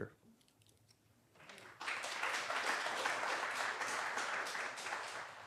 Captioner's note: applause